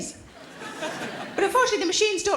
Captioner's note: audience laughing